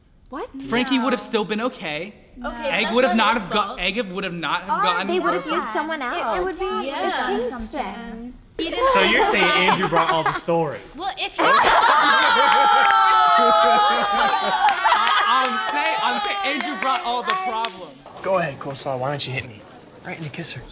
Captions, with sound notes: - What? - Frankie would have still been OK. EGG would have not go-- - They would have used someone else! - It would be with Kingston. So you're saying Andrew brought all the story. Well if-- [laughing] I'm saying Andrew brought all the problems! Go ahead, Coleslaw. Why don't you hit me? Right in the kisser.